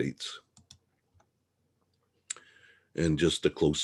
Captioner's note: mouse clicking